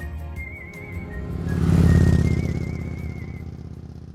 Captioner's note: engine growling